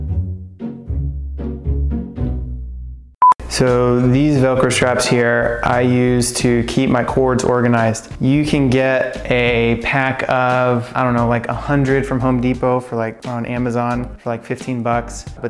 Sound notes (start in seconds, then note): 3.2 beeping